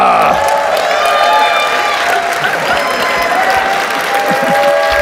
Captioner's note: audience cheers and applauds